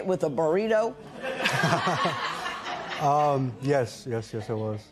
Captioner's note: laughter